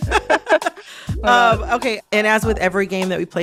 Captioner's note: laughter